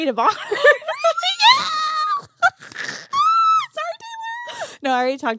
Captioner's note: both laughing